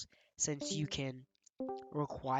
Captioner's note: Discord leave- and join-call sound